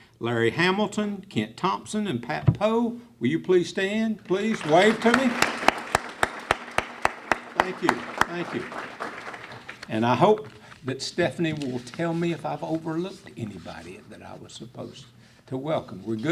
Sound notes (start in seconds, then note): 4.4 clapping